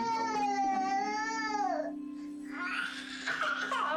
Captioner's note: crying